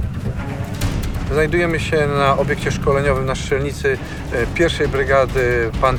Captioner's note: speaking Polish